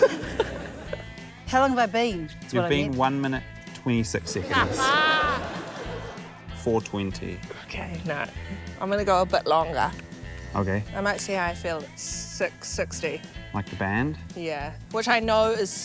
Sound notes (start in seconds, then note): 4.2 laughter